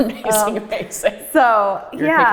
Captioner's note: laughs